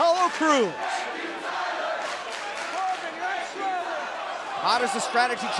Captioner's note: fans chanting